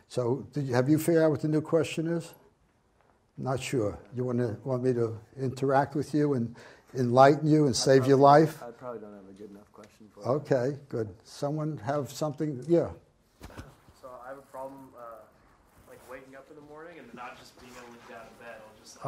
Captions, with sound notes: So, have you figured out what the new question is? "Not sure." Do you want me to interact with you and enlighten you and save your life? - [Voiceover] I probably don't have a good enough question for you. - Ok, good. Someone have something? Yeah? - [Voiceover] So I have a problem waking up in the morning and then not just being able to get out of bed.